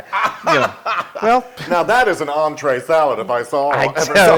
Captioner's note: laugh